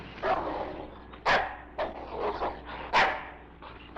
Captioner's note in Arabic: نباح الكلب